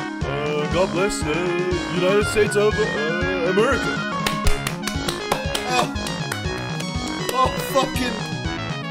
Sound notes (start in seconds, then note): 4.2 applause